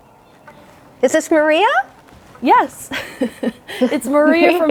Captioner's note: laughs